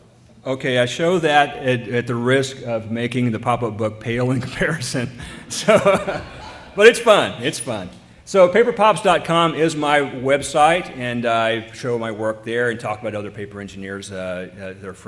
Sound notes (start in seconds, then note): 5.4 laughter